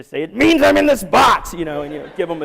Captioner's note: laughter